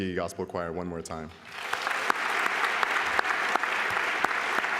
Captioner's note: applause